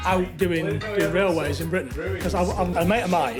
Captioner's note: background chattering